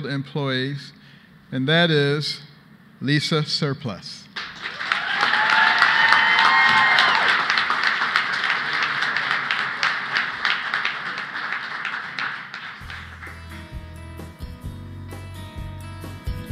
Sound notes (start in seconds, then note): 4.3 applause; 4.4 cheers and applause